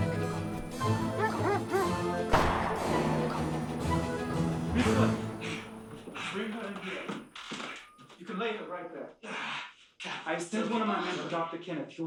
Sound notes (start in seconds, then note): 0.6 dogs barking; 2.3 gun firing